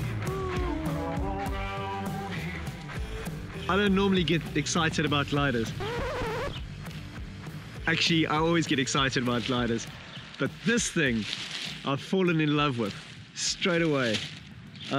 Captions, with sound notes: I don't normally get excited about gliders. (record scratching) Actually. I always get excited about gliders, but this thing I've fallen in love with straight away.